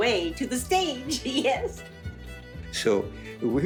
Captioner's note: laughs